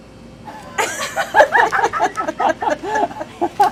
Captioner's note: laughing